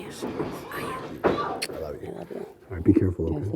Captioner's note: kissing